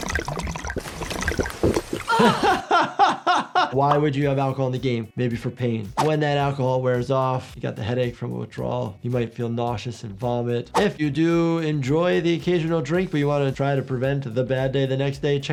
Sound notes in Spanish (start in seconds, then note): 0.0 chapoteos líquidos; 2.1 risas